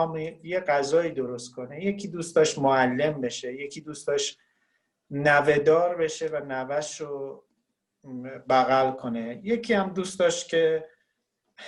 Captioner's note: speaking Farsi